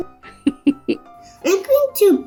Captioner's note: woman laughs